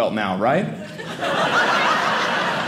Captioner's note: audience laughing